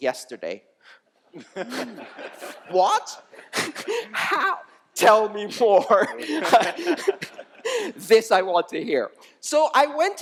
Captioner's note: laughter